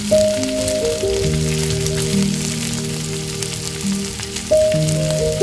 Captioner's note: fry pan sizzle continues